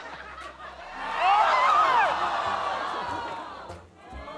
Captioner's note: shouting